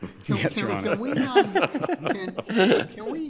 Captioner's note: everyone laughing